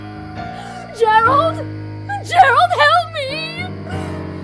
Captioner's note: cries